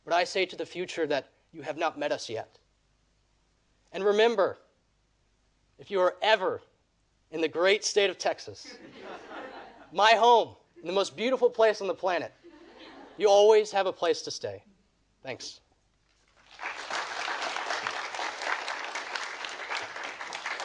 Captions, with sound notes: but I say to the future that you have not met us yet. And remember, if you are ever in the great state of Texas, (audience laughing) my home, the most beautiful place on the planet, (audience laughing) you always have a place to stay, thanks. (audience applauding)